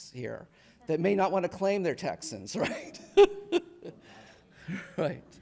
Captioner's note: laughs